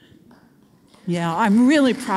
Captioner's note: audience applauds